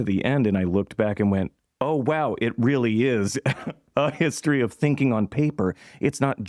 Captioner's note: laughter